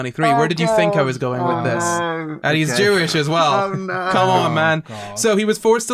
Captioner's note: laughter